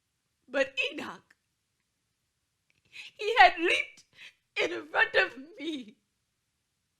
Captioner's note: sobs